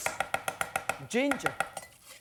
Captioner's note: chopping